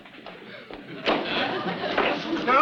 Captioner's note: audience laughs; picture frame thumps